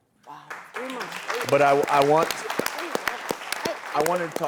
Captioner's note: applause